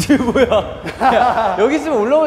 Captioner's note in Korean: 웃음